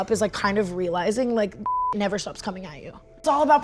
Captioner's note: beep